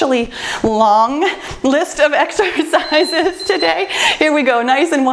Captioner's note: timer beeps